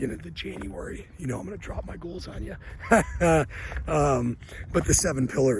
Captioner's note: laughs